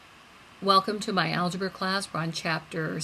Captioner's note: voiceover